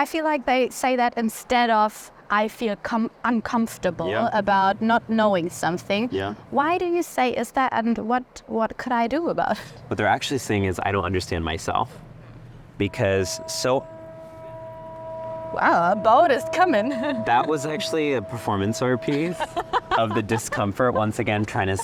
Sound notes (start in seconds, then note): 12.7 ship horn